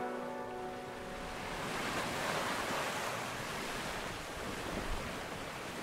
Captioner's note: water rippling gently